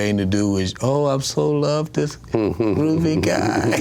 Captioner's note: chuckles